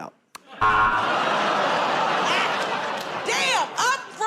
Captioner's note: buzzer